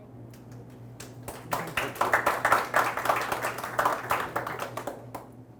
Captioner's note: audience applauds